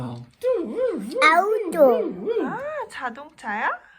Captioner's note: mimic police siren